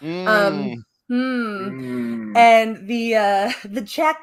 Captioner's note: cow moos